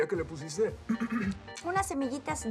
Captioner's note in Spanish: carraspea